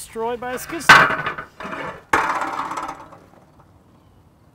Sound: metal clashing

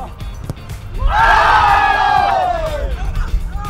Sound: cheering

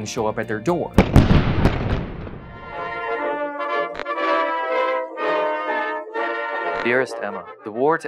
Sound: cannon explosions

